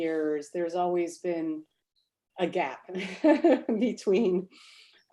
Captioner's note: laughs